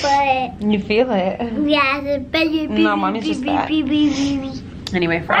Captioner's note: blabbering